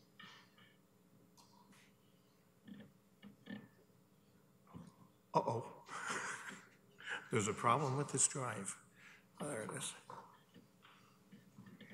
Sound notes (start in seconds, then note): 5.7 chuckles